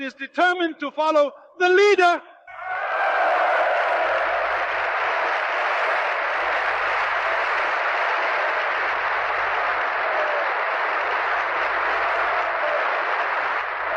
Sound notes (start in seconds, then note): 2.9 applause